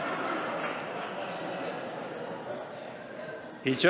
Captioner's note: laughter